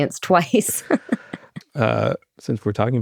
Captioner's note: laughs